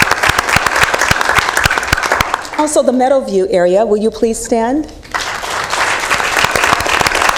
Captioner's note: applause